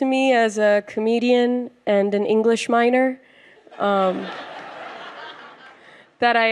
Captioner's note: laughter